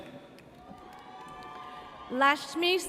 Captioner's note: audience cheers